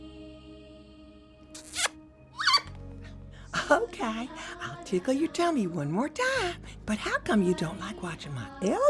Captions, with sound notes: [lips smacking] [bird chirping] Okay, I'll tickle your tummy one more time. But how come you don't like watching